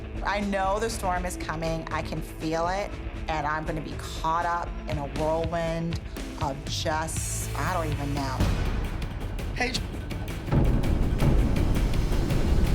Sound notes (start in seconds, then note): none